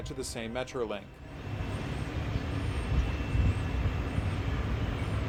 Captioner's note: wind howling